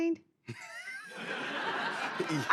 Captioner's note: laughter